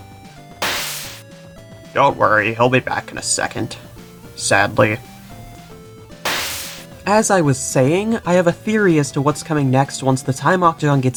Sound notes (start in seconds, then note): 0.6 teleport Noise; 6.2 teleport Noise